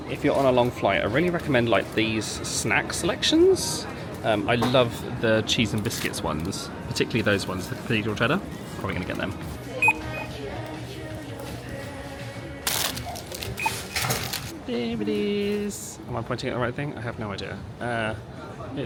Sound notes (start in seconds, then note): 12.5 bag crackles; 13.5 terminal beeps